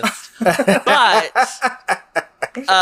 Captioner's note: laughs